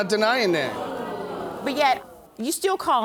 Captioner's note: audience exclaiming